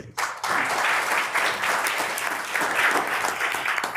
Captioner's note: members applauding